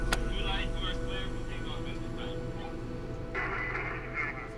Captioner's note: radio chatter